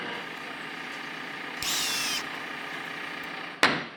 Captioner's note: power drill whirring